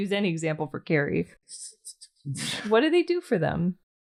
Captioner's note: angy noises